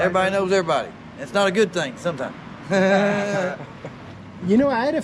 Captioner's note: laughing